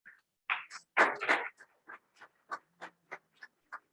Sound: scattered applause

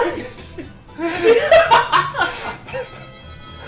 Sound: cackles

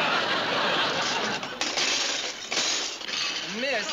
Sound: banging

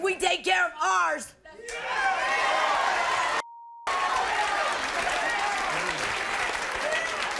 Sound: beep; crowd cheering

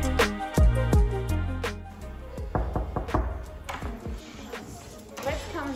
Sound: calm music playing; knock, knock, knock

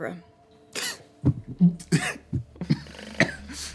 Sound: laughing

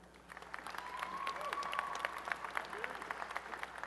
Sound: applause and cheering

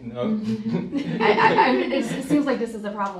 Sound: laughing; students laughing

